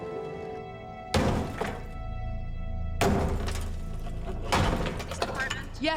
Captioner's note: hammer banging